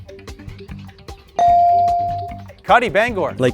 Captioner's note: bell dings